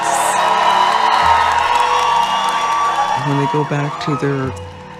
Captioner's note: audience applauding and cheering